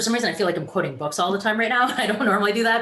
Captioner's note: laughs